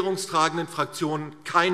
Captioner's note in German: none